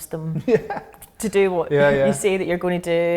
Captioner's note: laughing